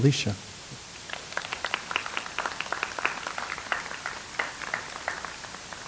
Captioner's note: audience applauds